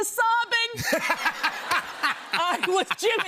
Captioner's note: laughter